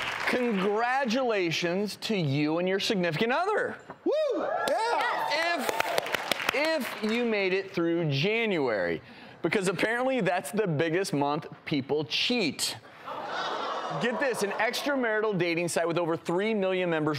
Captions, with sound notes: Congratulations to you and your significant other, (cheering and clapping) if you made it through January, because apparently that's the biggest month people cheat. (audience gasping) Get this, an extra marital dating site with over three million members